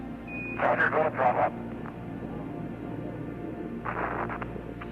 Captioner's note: radio chattering